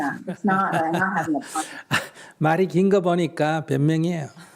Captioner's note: laughter